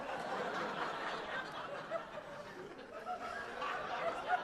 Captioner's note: audience laughing